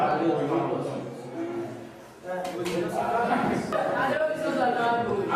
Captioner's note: speaking Kreyol